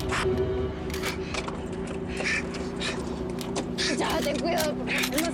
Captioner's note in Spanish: Respiración agitada